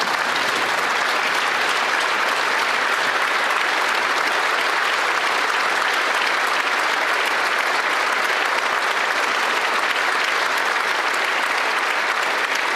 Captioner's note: some Applause